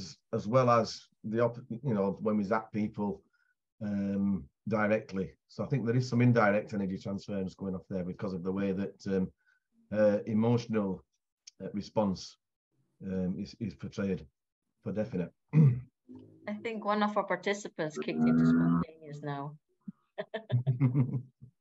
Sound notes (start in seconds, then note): 20.2 laughter